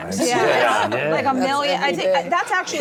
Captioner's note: all laugh